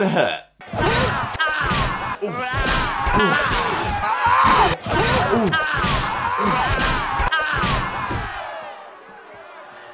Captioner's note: Sounds of Spidey getting seriously buggered